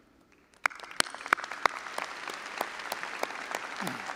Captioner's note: all applauding